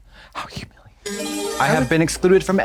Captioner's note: bright chime